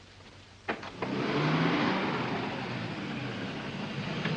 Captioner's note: car approaches